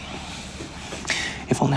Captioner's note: sighs